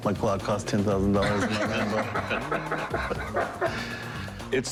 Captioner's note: laughter